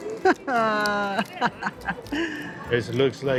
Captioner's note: laughing